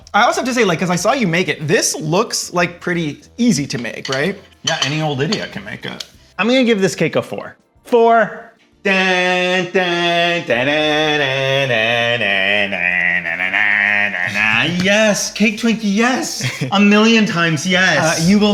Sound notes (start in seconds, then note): 9.0 humming